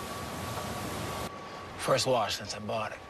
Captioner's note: car wash noises